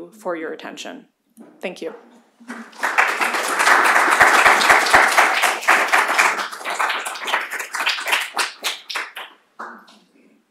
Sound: applause

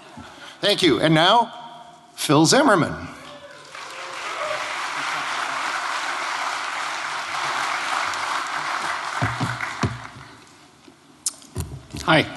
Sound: applause

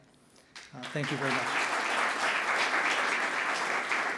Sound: audience clapping

